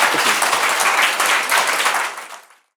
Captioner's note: audience applauding